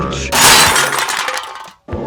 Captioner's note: crash